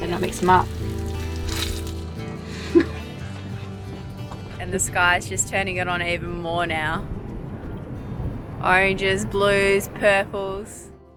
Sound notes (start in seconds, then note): 2.4 laughs